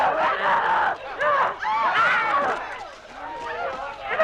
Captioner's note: Hundra roaring